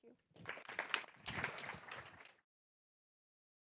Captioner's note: applause